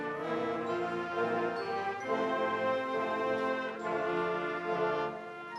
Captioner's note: none